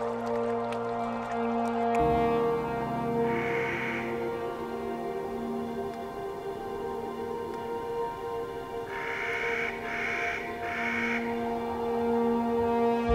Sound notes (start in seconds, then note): 0.0 ethereal piano and vocal music; 1.9 Clark's nutcracker bird calls